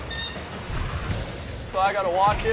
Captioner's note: tense music; furnace whirring